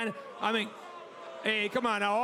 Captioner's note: crowd boos